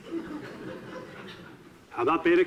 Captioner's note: audiences laughing